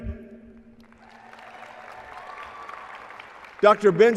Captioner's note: applause and cheering